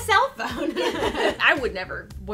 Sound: presenters laugh together

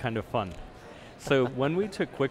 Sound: host chuckles

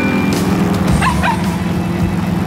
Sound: barking

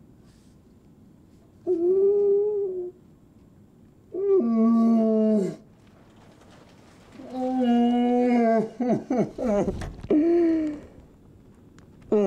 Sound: crying

